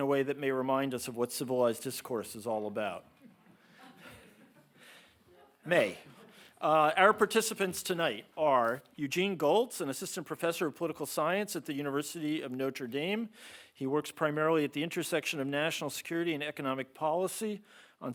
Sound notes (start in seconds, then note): 3.3 audience laughing